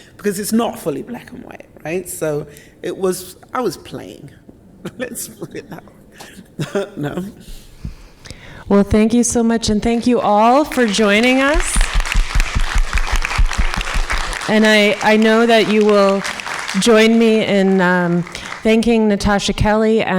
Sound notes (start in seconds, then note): 4.8 chuckles; 11.5 audience clapping